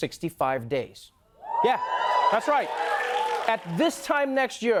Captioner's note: cheering and applause